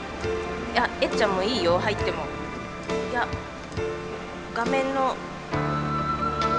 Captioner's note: converses in Japanese